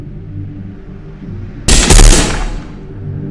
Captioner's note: gunshot